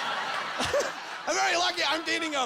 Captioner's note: laughing